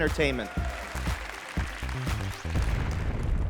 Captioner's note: applause